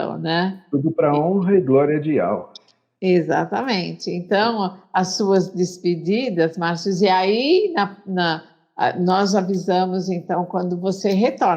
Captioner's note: Speaking Hebrew